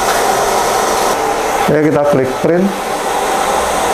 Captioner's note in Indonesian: suara mesin printer